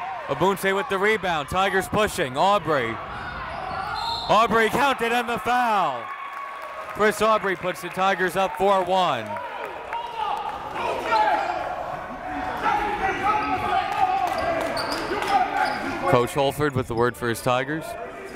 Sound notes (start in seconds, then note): 3.7 whistle; 12.8 coaches barking commands